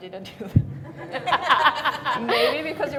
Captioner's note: everybody laughing